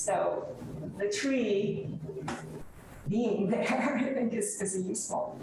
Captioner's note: laughs